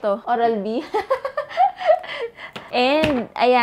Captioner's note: laughs